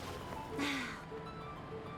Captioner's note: sigh